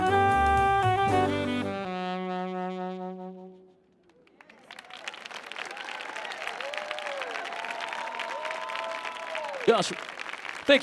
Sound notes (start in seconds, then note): 4.1 audience applauding; 4.4 audience cheering